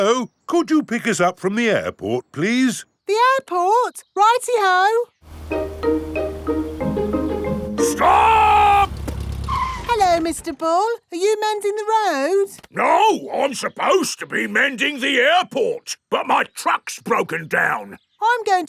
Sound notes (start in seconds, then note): 8.0 brakes squeal